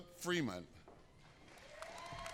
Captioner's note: applause